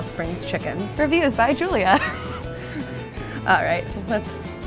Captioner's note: laughs